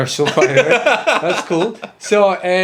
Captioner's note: laughs